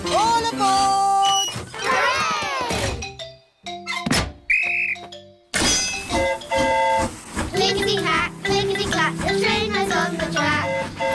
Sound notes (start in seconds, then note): 4.4 train horn toots; 4.4 blows whistle